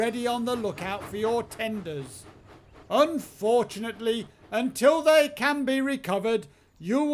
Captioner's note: none